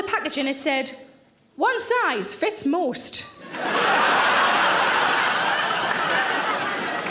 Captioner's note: audience laughs